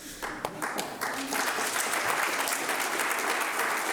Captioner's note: audience applauding